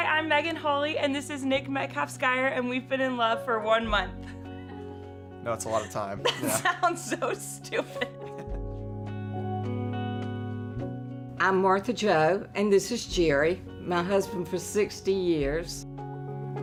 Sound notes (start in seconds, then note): 6.2 laughs